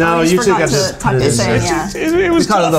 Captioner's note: overlapping chattering